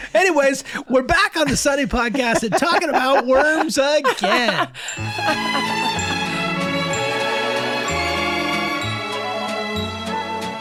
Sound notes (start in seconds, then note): 1.9 Glenn, Megan laughing; 4.8 elegant music; 4.9 pleasant bell dinging